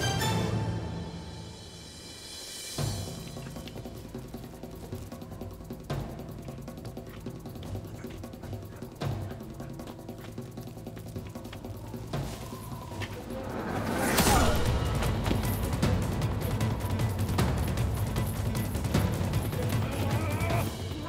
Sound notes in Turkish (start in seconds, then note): 14.0 İnleme sesi; 15.5 Müzik - Gerilim